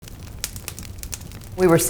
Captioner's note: fire crackles